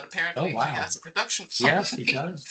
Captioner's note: chuckling